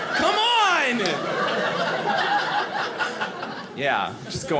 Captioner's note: audience laughing